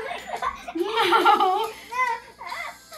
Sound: laughing

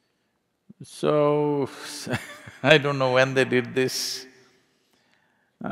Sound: laughs

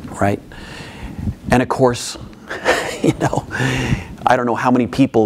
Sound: laughing

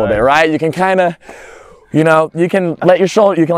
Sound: pants

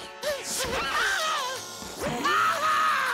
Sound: screaming

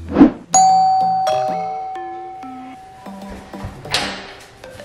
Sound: doorbell rings

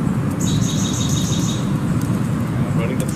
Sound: chirping

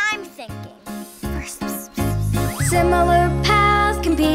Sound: Peanut whispers

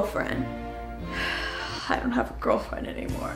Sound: sighs

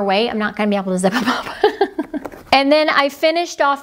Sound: laughing

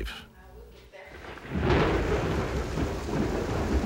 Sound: thunder rumbling

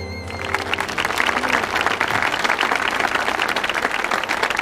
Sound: audience applauding

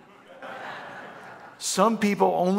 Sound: congregation laughing

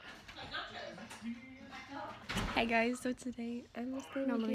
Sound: none

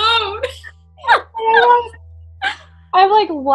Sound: all laughing

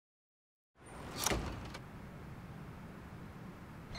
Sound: door opens

